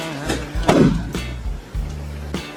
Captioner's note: thud!